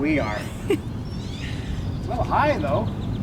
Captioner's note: giggles